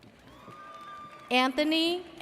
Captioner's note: audience cheers